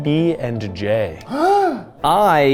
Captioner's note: Ryan gasping